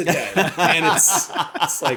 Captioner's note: laughter